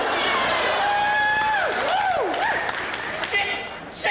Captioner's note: women cheering